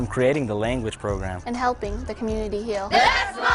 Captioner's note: shouting